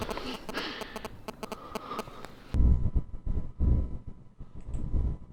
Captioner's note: electronic interference